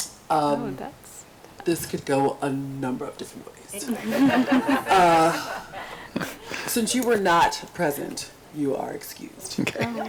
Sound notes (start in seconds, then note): 3.9 group laughs